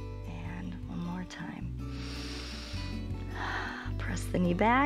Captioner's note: inhales and exhales